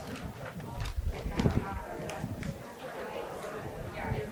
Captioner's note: people chattering